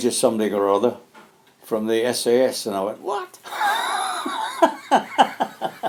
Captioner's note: laughs